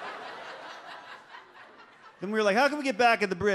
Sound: audience laughs

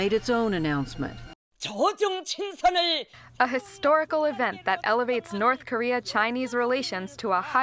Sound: through translator

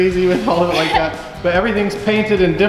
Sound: laughs

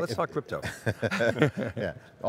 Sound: chuckles

